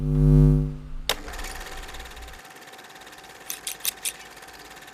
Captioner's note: film projector whirring; scissors clicking